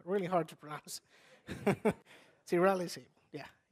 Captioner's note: laughs